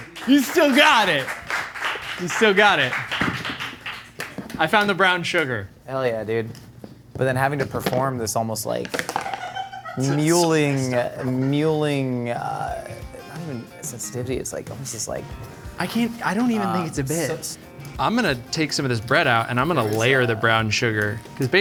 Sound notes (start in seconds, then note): 3.0 crew applauding; 9.2 crew member lauging